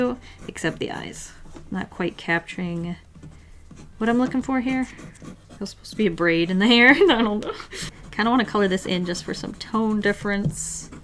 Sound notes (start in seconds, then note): 6.7 laughs